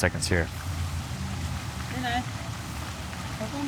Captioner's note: water fountain pouring; background chattering